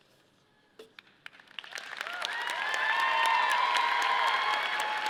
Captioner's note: audience applauding